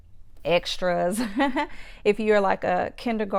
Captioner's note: chuckles